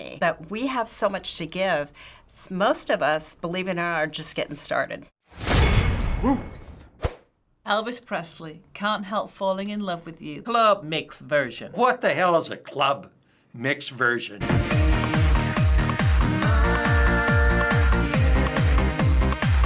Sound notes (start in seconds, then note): 5.4 clang!; 6.1 voice-over; 14.5 upbeat electronic music